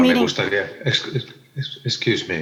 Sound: translator speaking in foreign language

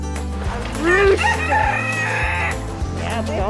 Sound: rooster crowing

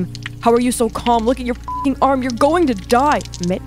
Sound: beep

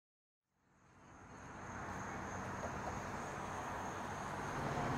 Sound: traffic moving

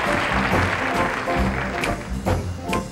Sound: audience applauding; upbeat music

